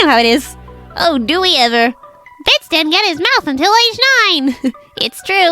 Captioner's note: laughs